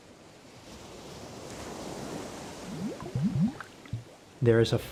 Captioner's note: waves crashing